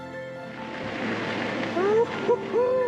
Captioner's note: bright inspirational music; wind whirring